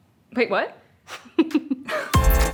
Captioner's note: chuckling